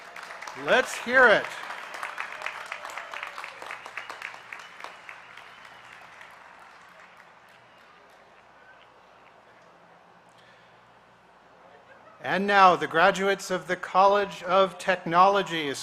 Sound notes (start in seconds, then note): 6.3 applause